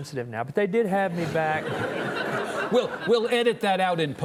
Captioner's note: audience chuckling